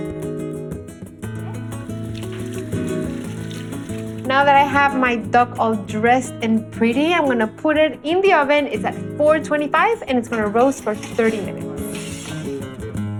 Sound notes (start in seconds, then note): 1.4 splashing